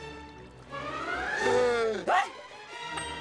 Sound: gasping

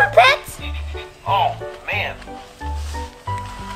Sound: toy talking

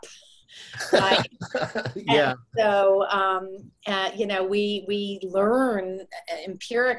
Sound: laughs

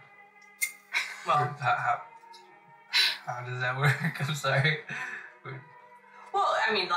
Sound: Mickey laughs; he mumbles

